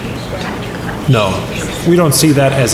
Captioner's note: crowd murmur